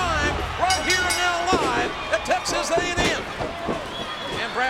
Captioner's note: ring bell dinging